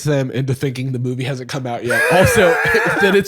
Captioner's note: laughing